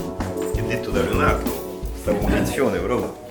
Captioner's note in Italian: voci di sottofondo